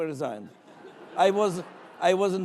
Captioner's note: laughing